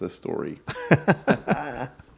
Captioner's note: laughing